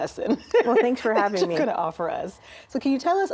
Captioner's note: laughing